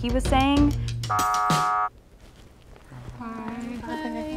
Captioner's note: buzzer